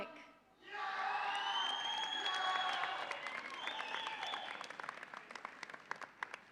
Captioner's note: audience applauds and cheers